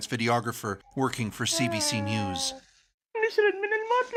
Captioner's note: speaking Alternate Language